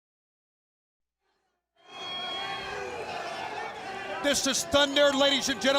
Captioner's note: crowd cheering